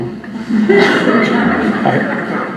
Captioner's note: audience laughter